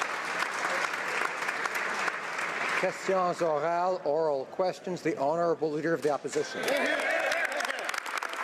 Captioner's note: applause